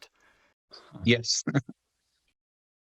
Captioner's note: chuckles